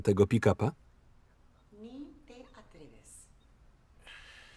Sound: speaking in Spanish

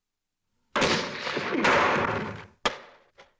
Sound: musket goes off

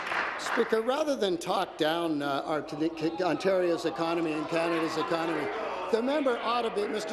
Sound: applause

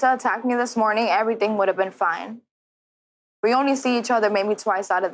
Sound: none

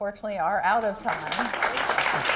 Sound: applause

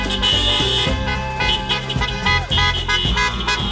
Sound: people cheering

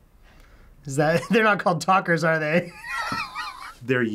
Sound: laughs

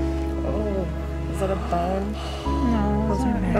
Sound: gasp

